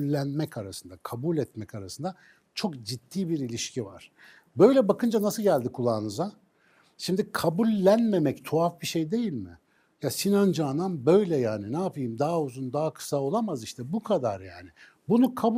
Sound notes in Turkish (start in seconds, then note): none